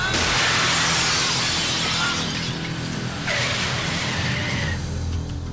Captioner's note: glass shatters; wheels screeching